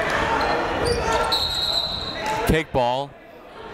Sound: whistle

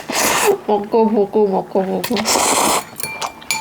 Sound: laughing

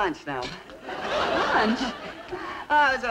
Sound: audience laughing

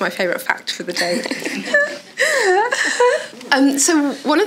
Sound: audience laughs

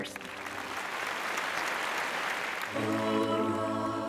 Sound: applause

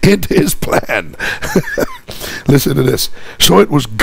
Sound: laughs

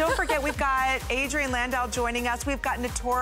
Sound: laughter

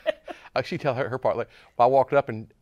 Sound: laughs

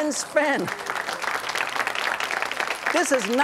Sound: audience claps

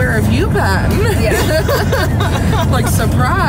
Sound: laughing

